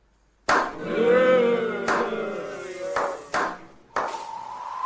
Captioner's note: disgruntled moaning